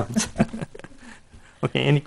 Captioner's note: chuckling